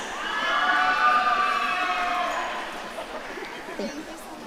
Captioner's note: audience cheering